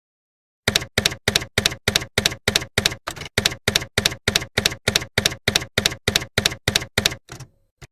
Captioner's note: typewriter keys clacking